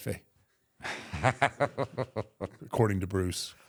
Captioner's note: Michael laughs